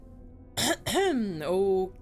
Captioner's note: clears throat